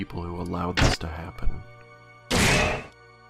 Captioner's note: clang